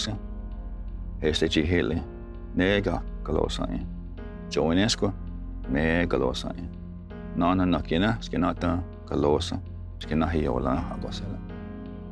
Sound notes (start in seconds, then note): 4.1 tells story in Cherokee language